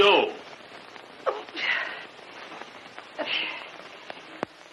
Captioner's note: sputtering